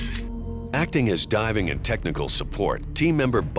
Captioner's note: camera shutter clicks